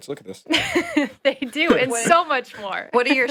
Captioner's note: laughs